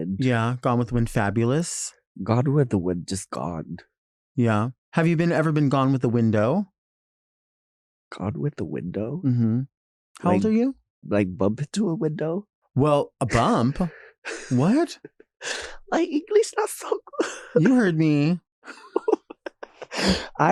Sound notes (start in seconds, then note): 13.2 Nymphia chuckling; 18.7 Nymphia laughing